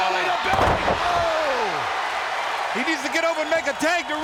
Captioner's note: crowd cheering